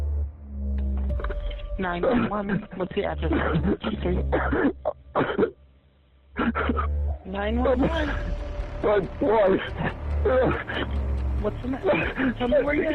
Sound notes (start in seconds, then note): 4.0 sobs